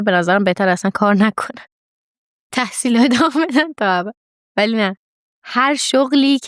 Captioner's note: laughs